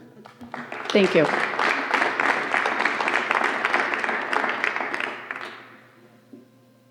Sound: applause

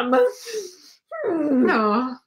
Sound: sighing

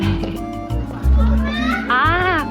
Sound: thump thump

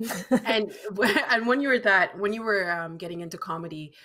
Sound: laughing

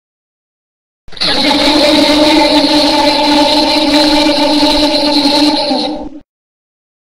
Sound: ghostly scream

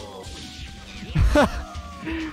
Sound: tiny laugh

